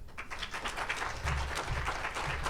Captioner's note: audience applauds